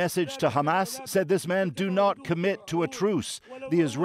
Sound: speaking alternate language

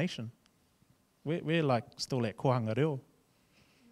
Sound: speaking in foreign language

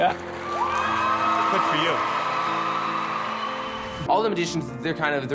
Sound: audience cheers

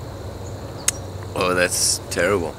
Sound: lips smack

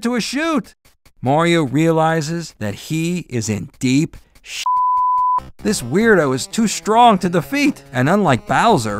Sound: beep

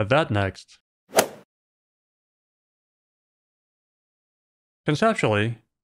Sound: golf ball hit sound

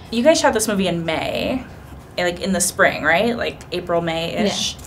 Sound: none

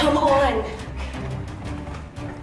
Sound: footsteps

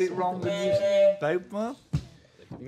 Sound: honk

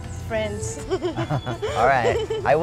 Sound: laughing

